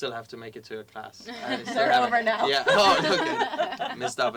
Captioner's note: laugh